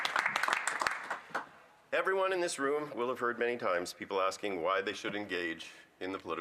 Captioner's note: some Applause